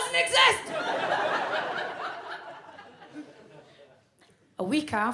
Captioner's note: audience laughs